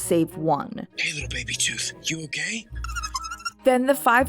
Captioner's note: Baby Tooth squeaks in reply